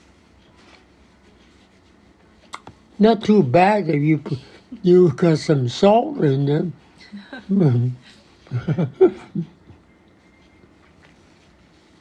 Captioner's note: <laughs>